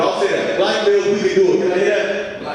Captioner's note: audience speaking